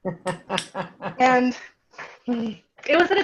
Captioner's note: chuckling and clapping